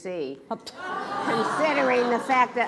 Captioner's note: laughs